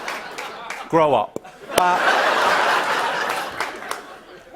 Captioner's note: laughter